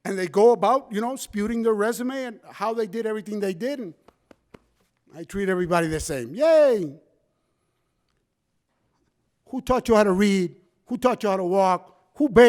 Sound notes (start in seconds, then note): 4.0 hand taps